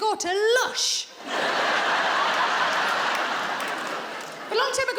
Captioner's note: audience laughs